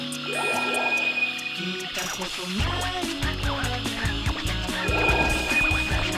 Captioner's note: upbeat goofy music; objects chiming